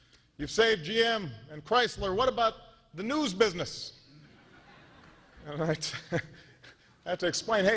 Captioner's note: laughter